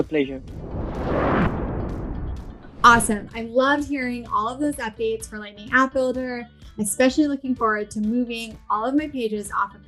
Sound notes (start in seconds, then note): 0.3 air whooshing